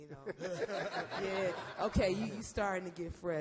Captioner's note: all laugh